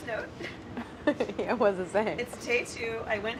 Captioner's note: laughs